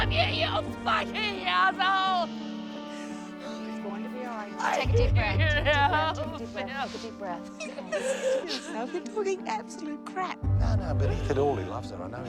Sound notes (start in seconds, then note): 7.9 sobs